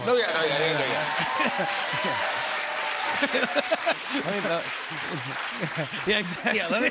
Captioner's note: cheers and applause